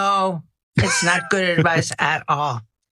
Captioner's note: laugh